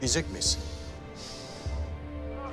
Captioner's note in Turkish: Nefes sesi